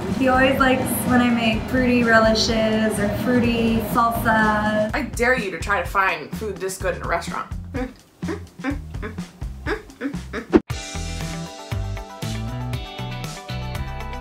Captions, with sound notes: He always likes when I make fruity relishes or fruity salsa. - I dare you to try to find food this good in a restaurant. (pleased humming) (upbeat music)